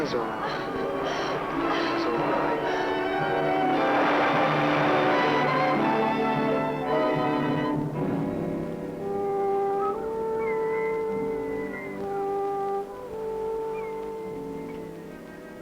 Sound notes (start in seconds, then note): 0.1 Mora panting; 7.7 gentle music; 10.1 seagulls cawing